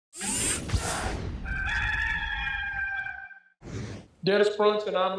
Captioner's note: logo whooshing; rooster crowing